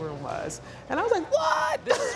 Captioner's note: laughs